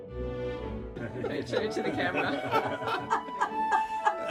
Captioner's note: laughing